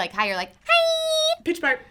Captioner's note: in high pitch; makes tooting noise